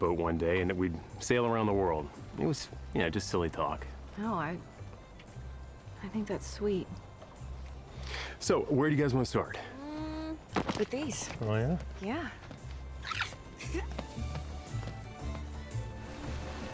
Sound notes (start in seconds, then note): 13.4 peyton giggling